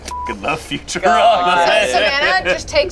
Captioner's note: beep